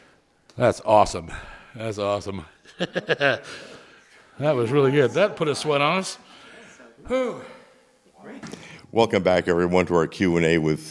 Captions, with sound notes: Symphony Nova Scotia, yeah! That's awesome. [Chuckles] That was really good. That put a sweat on.